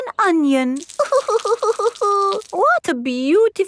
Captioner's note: crying